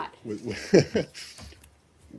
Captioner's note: laughter